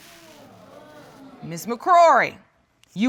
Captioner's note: audience groaning